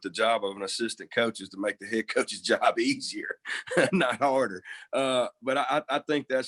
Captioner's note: laughs